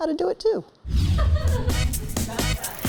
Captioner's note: graphics whooshing; people laughing; upbeat music